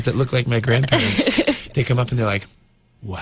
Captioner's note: interviewer laughs